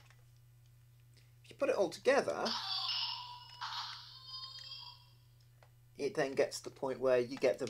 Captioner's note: electronic sound effect